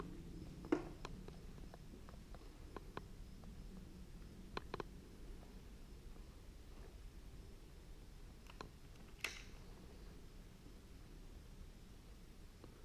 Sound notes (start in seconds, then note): 9.0 gun clicks